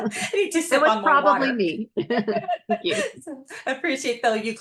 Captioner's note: laughs